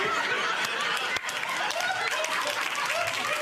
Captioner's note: audience laughs